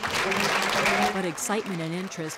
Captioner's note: cheering and applause